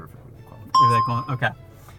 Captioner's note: bell rings